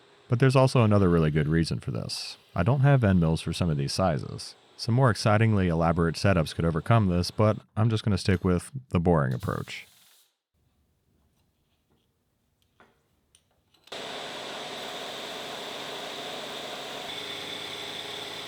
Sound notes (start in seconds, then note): 14.4 machine whirring